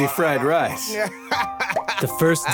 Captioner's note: customers laugh